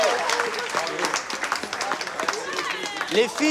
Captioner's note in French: aplaudissement